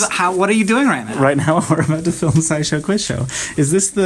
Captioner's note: laughing